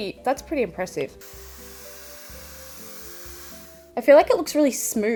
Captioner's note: hairdryer whirring